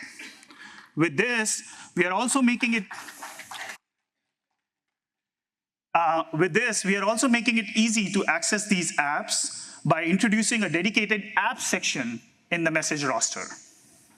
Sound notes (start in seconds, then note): 2.9 applause